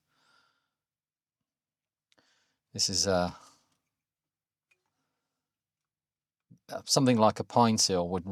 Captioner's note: blank Audio